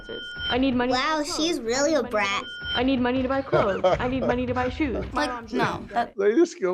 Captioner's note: laughs